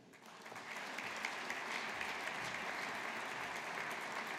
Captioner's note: audience applauding